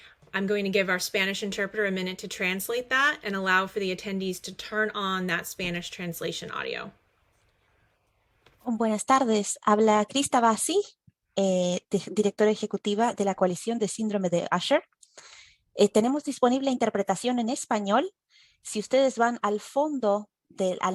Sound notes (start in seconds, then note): 8.4 Español